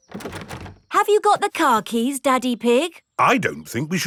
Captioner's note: door rattles